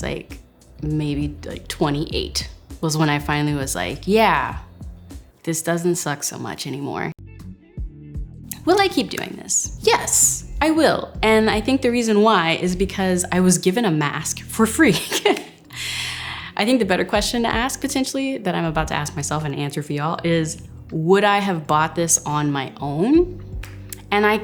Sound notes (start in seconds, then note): 7.4 gentle relaxing music; 15.9 laughs